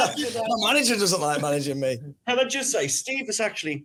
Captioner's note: laughs